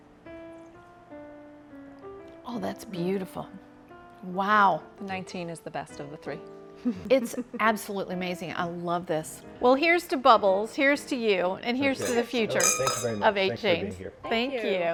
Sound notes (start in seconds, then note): 6.8 chuckles; 11.9 glasses clinking